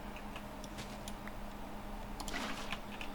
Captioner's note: typing